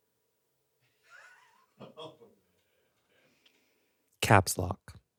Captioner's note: crew laughing